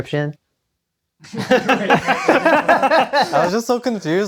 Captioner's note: laughter